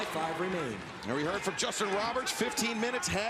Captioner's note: announcer continues